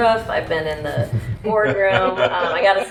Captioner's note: laughs